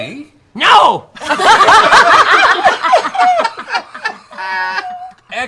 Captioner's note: laughter